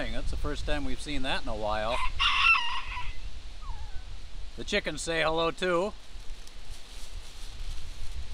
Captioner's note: rooster crowing off camera